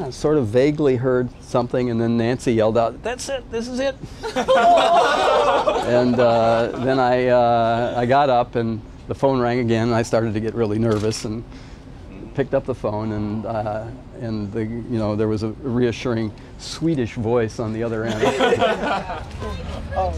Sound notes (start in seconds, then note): 4.1 laughter